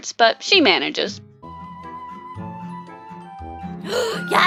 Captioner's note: gasps